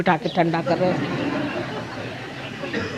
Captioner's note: yogis laugh